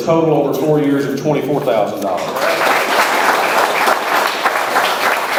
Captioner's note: audience applauds